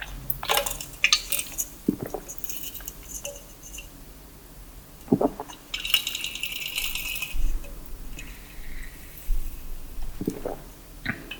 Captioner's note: swallowing soda…